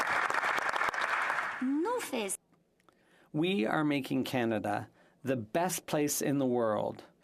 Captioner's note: applause